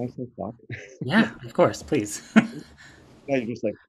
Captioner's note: chuckles